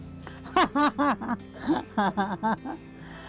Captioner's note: laughter